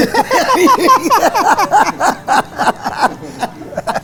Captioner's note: laughing